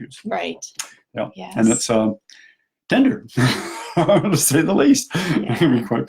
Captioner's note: both laugh